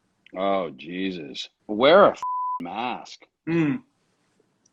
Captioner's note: beep